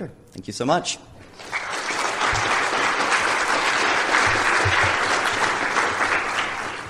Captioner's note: applause